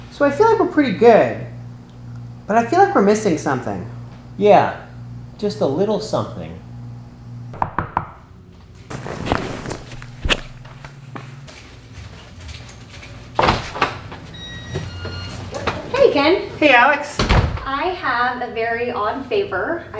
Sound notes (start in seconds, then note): 7.5 knocking on door; 8.8 leather creaking slightly; 11.6 footsteps; 12.5 door opening